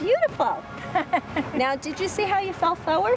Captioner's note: laughs